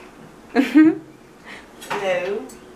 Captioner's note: giggles